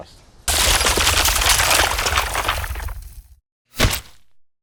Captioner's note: stone cracking